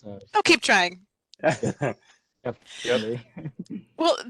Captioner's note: laughter